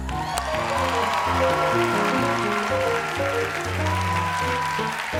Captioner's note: applause